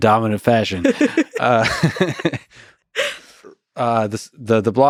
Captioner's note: laughs; both laughing